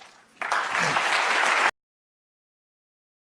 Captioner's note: applause